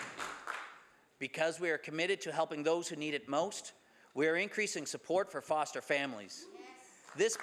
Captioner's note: some Applause